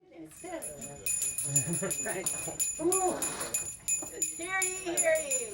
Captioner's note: sound of a bell ringing